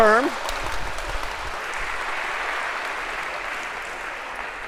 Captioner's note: applause